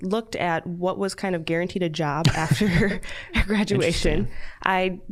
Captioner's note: all chuckling